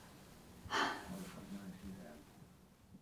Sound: sighs

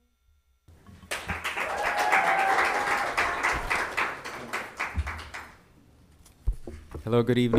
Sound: people cheer; audience applauds

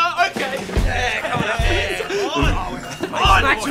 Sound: cheering

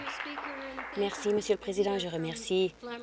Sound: applause

